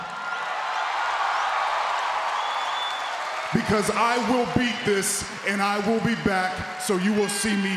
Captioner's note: applause